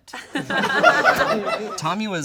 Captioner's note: all laugh